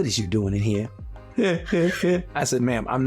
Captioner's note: laughing